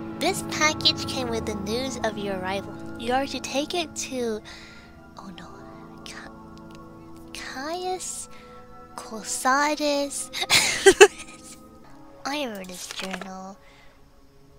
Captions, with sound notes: "This package came with the news of your arrival. You are to take it to..." Oh no.. Ca... Caius... Cosades. *laughs* I remember this journal.